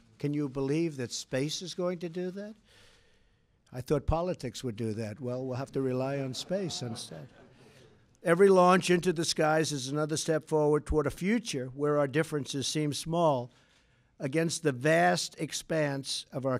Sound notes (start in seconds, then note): 6.2 laughter